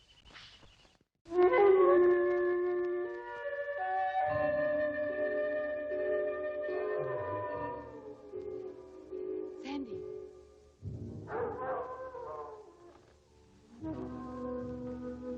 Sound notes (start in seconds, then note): 1.3 light dramatic music; 7.4 wolf howling; 11.2 wolf howling